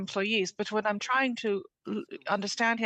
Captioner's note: speaking French